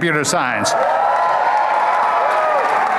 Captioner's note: applause